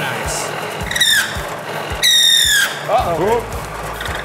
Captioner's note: drill squeaking